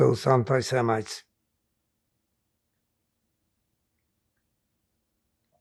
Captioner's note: pauses 6 seconds